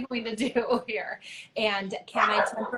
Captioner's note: laughs